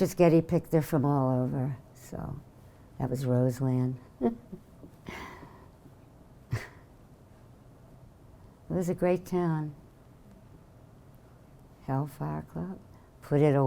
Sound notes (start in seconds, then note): 6.5 laughing